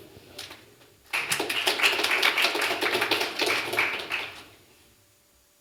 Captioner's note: applause